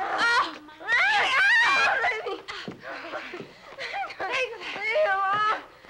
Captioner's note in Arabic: بابس ونيللي يتأوهان